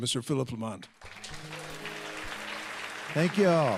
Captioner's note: applause